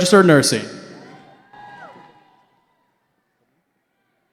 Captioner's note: cheering